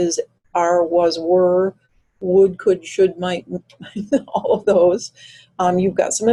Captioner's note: chuckles